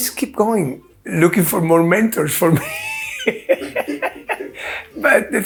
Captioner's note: laughing